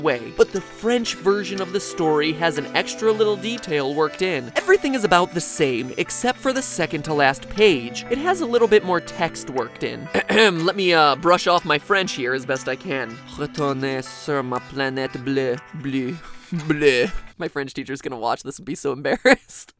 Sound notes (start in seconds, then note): 13.2 mumbles made up French sounding words